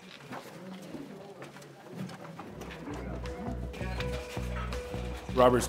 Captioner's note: crowd talking